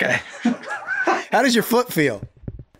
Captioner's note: everyone laughing